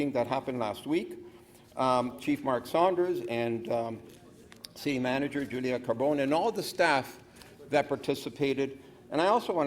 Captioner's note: speaker off mic